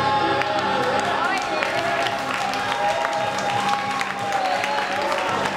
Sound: cheering and applauding

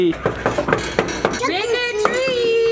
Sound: knock

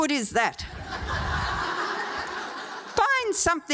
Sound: audience laughing

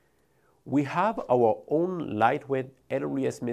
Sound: text whooshing

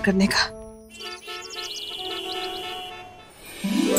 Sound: cars honk

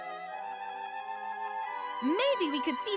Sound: howls

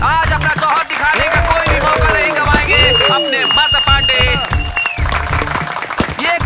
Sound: applause

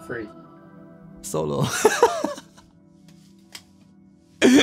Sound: laughing

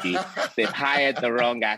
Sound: laughing

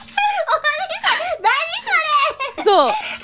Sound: laughing

